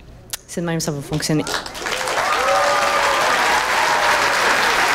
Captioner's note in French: acclamations soutenues